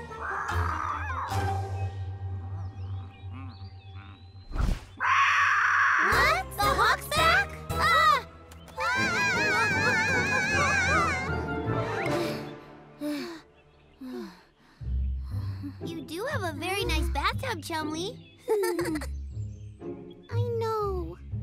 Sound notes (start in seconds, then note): 0.2 relaxed squawk; 4.9 squawks; 8.7 both grunting; 8.7 yelling; 12.1 both panting; 18.4 chuckles